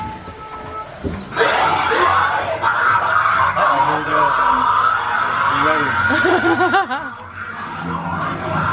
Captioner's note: screaming and laughing; whirring noise